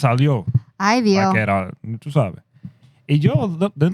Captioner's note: speaking Spanish